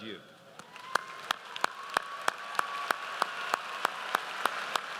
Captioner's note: audience applauds